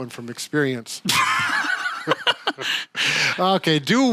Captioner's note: laughing